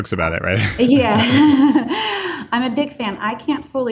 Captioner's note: laughing